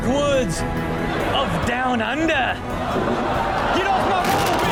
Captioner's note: audience gasps